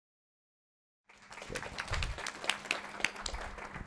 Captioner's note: applause